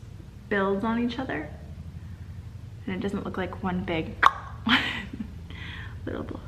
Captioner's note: clicks tongue